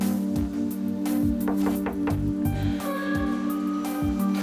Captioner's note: knocking